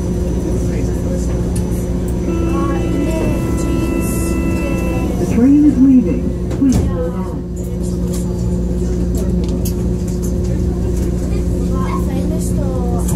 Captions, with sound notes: (buzzer) "Train is leaving. Please hold on."